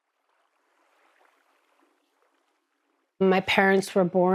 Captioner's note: water lapping against rocks